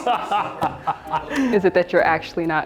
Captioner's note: all laughing